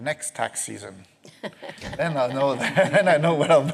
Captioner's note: laughter